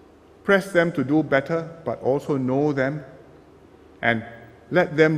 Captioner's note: none